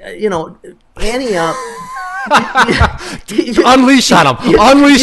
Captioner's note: laughter